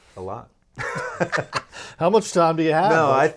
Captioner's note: laughing